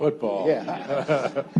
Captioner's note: audience laughs